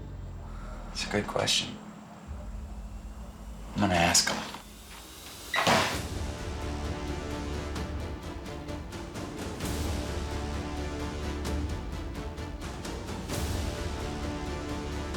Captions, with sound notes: - That's a good question. I'm gonna ask him. (door closing) (dramatic orchestral music)